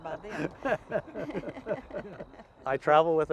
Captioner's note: laughing